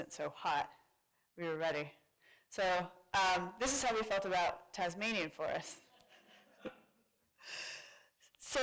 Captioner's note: laughter